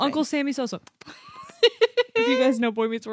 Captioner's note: laughs